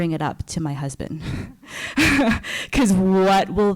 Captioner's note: giggles